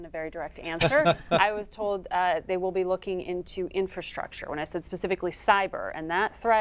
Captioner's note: laughter